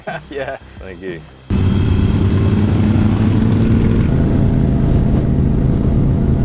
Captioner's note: he laughs; motor purrs